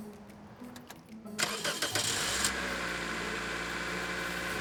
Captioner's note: car engine revs